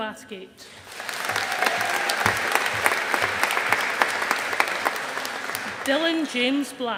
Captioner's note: audience applauding